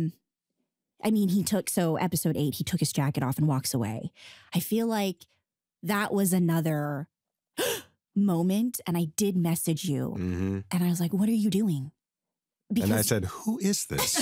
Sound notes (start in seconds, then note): 6.9 gasps